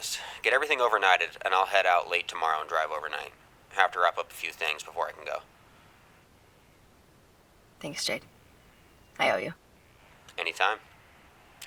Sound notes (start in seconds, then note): none